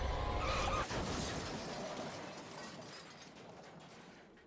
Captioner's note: car crash